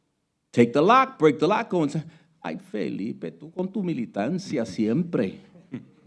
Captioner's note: speaking Spanish